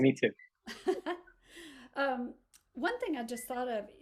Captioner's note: laughs